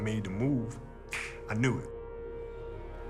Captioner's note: snaps